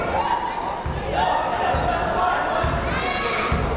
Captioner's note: yelling